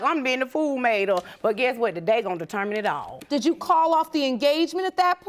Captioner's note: none